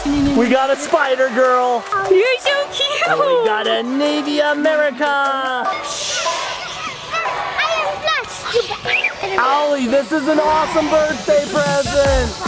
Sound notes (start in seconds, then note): 5.6 imitating swooshing; 8.9 screams